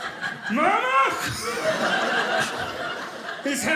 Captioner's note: audience laughing